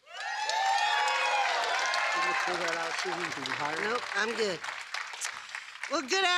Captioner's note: applause